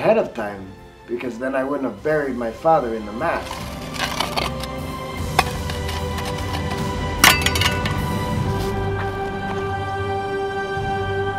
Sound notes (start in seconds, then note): 3.2 scraping; 5.2 clinks; 7.2 dramatic orchestral music